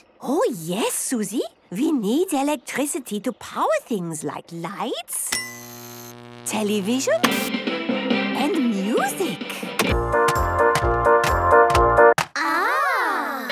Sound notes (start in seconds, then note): 5.2 light bulb buzzing; 5.5 TV static, show music; 9.7 clicks, music plays